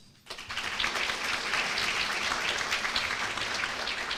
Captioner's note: applause